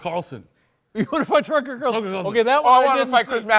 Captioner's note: laughs